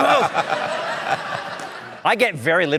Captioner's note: laughter